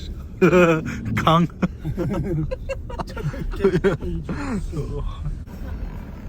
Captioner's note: laughing